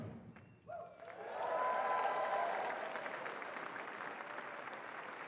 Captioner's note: audience cheering and applauding